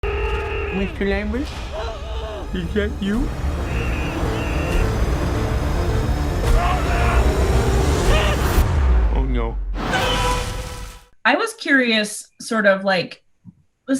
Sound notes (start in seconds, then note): 0.0 dramatic music; 4.0 muffled screams